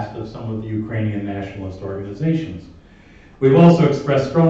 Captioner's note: none